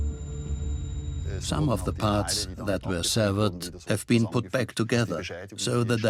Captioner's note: dubbed in English